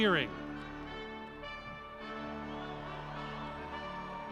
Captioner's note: cheering